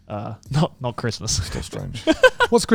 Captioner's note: laughs